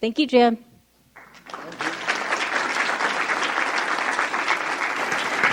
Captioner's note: audience applauding